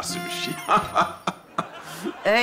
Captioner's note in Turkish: Alarm sesi; Gülme sesi